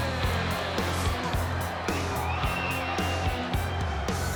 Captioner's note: crowd chatter; crowd cheering